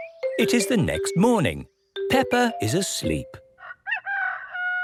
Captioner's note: cock-a-doodle-doo